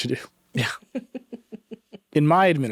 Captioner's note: chuckling